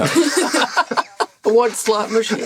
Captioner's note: laughter